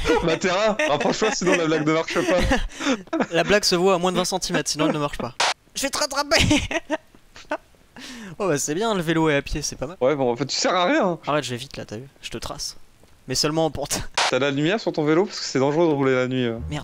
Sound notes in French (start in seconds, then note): 0.0 rire; 7.4 rire